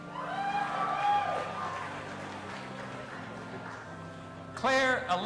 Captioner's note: audience applauding and cheering